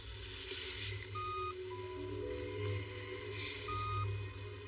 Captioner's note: macachine beepiping